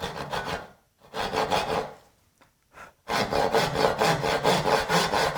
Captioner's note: saw on wood rhythmically rasping